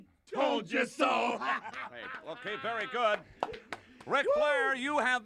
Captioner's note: Brain laughs